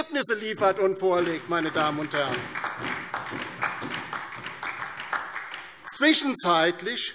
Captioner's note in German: Beifall DIE LINKE und SPD